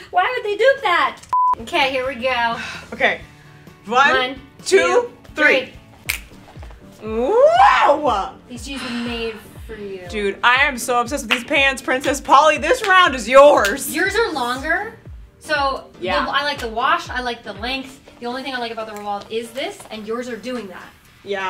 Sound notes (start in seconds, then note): 1.3 beep